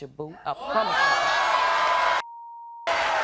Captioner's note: beep; audience cheers